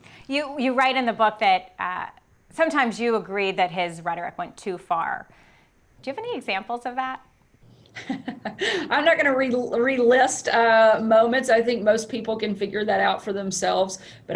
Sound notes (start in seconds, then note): 7.9 chuckles